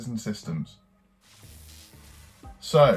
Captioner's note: electricity buzzing